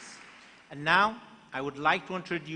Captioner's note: applause